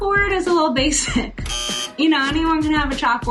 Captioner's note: sign buzzing